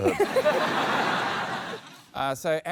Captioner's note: laughter